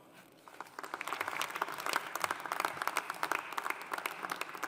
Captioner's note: audience applauding